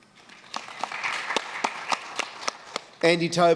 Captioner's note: applause